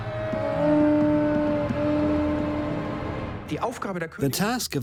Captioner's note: horn sound